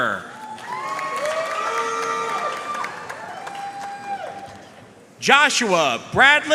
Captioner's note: audience cheering and applauding